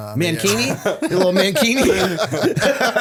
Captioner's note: laughter